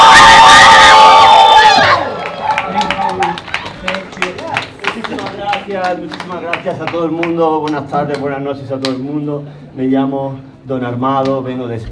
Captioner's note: speaks in Spanish